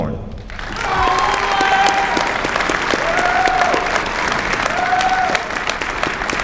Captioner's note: applause